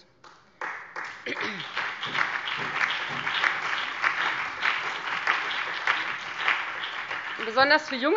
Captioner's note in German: Beifall Freie Demokraten, BÜNDNIS 90/DIE GRÜNEN, SPD und DIE LINKE